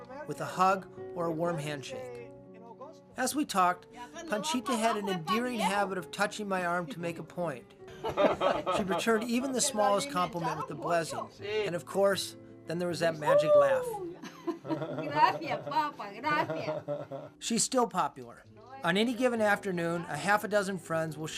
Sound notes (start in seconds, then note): 7.9 laughter; 14.1 laughter